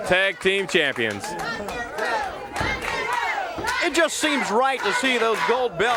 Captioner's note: crowd cheering